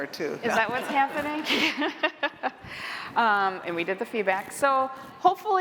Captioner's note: laughter